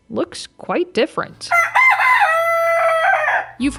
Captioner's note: rooster crowing